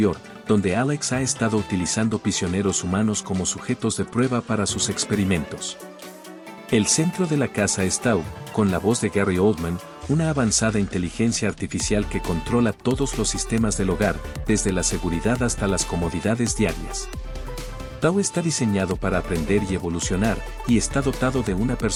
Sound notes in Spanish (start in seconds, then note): 8.2 con la voz de Gary Oldman